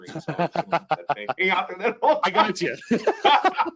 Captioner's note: overlapping chatter; laughing